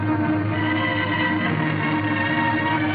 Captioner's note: blowing